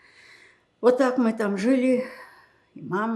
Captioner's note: sighing